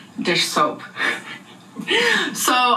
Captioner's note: laughing